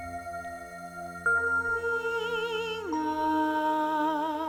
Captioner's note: sirens singing